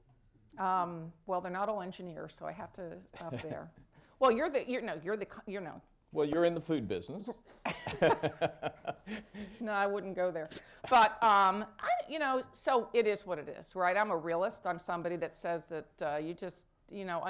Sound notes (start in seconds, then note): 3.2 laughter; 7.6 laughter